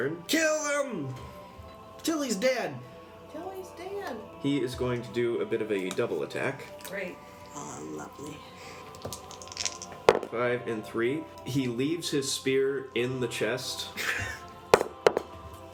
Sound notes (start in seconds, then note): 8.9 dice roll